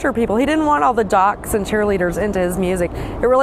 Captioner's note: laughing